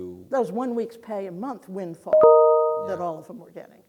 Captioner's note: beep